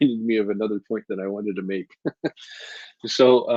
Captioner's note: chuckles